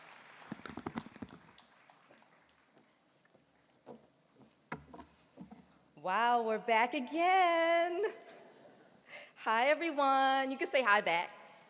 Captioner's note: applause